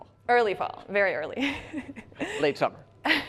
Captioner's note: laughs